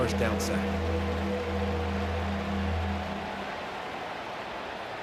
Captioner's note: cheering